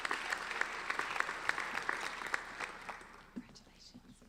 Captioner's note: applauding